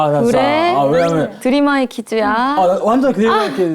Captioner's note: excited